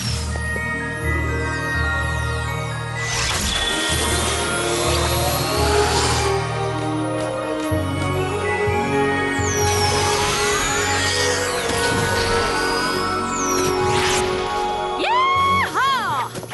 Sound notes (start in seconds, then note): 1.4 chimes; 3.3 whoosh